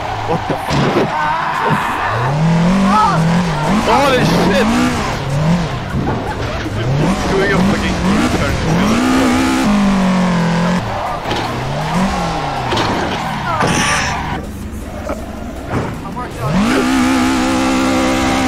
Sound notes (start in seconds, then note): 5.5 dying of laughter